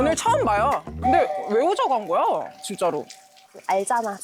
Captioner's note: Only asking now sound effect